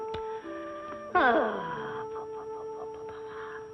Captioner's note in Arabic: تنهد